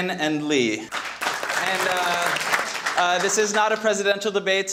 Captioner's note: audience clapping